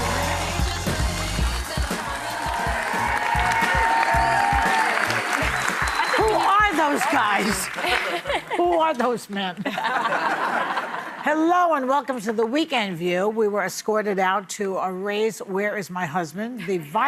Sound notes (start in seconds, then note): 9.6 audience laughing